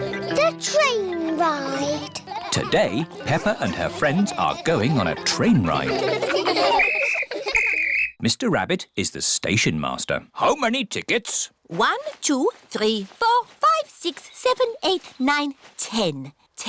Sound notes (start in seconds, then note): 6.7 blows whistle